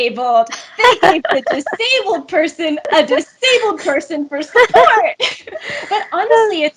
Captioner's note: both laugh